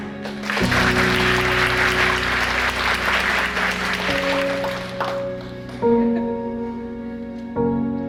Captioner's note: applause from the audience